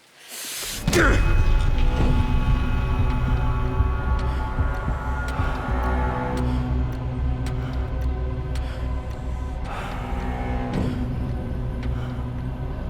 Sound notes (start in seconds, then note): 0.9 dramatic music; 6.8 birds chirping; 10.0 dramatic music